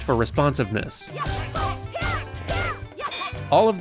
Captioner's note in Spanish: grititos de batalla adorables